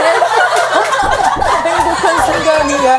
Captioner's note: pop pop